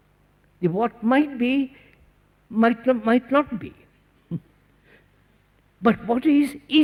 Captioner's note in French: Rires